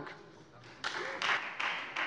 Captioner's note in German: Beifall Freie Demokraten